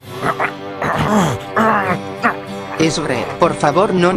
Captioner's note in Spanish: gruñidos de esfuerzo